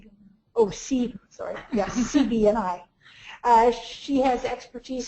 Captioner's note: laughs